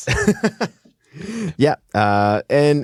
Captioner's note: laughing